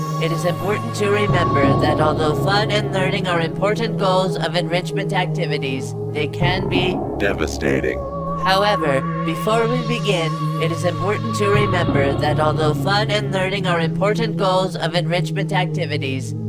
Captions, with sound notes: it is important to remember that although fun and learning are important goals of enrichment activities, they can be- [GLaDOS with an evil voice filter] devastating. [GLaDOS back to regular voice] However, before we begin, it is important to remember that although fun and learning are important goals of enrichment activities,